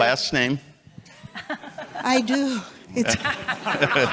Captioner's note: chuckles